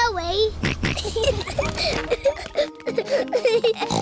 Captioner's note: snorts; kids giggling